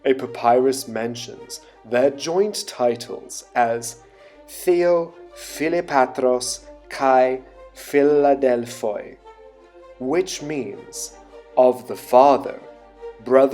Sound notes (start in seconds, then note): 4.4 speaking in foreign language